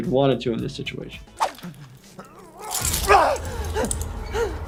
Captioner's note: man gasping